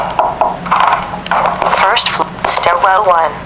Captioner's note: doorknob sound effects